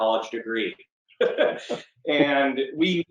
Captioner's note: laughs